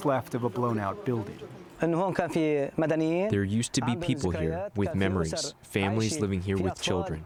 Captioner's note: through translator